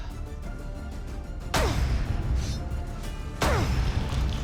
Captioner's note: grunting